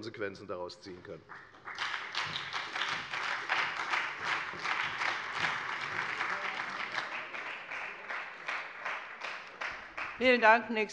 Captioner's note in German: Beifall bei der FDP und der SPD